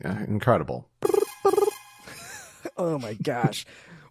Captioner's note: imitates trailer